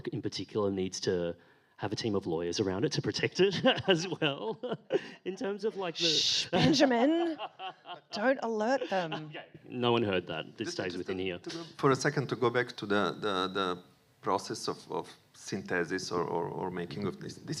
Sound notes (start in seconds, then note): 3.4 laughs; 7.0 laughs